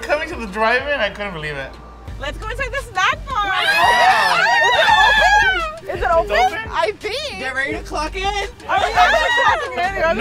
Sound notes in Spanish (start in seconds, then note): 3.4 gritos